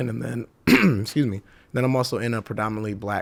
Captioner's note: clears throat